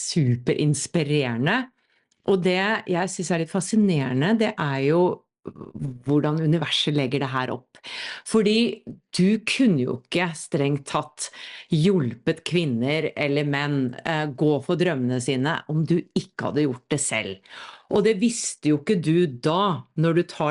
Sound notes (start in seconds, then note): none